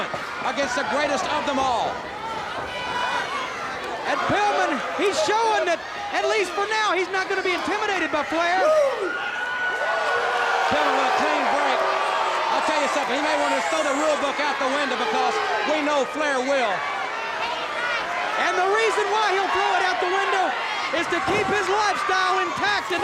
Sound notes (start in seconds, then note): 2.8 footsteps plodding; 9.2 crowd cheering; 17.1 crowd clamoring